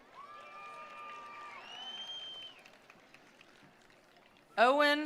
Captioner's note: attendees applauding; attendees cheering